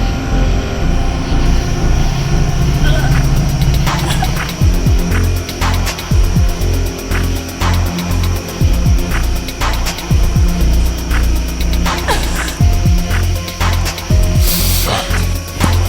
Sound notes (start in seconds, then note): 3.6 morgan choking; 14.8 the ghost grunts